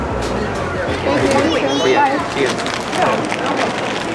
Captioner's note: in English